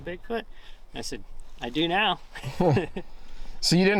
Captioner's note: laughing